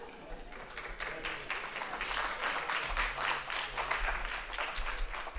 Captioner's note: applause